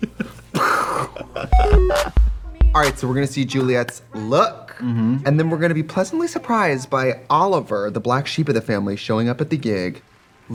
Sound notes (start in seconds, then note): 0.0 laughing; 0.7 imitates explosion; 1.5 bright electronic music